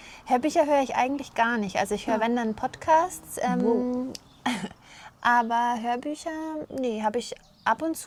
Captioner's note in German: räuspern